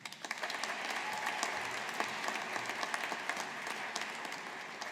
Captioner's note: audience applauding